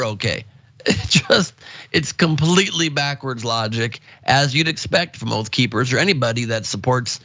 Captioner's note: laugh